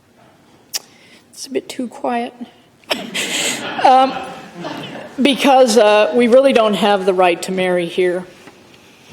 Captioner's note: laughter